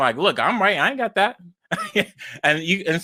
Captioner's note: laughs